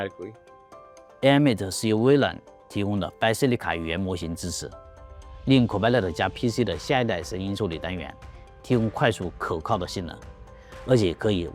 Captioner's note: foreign Language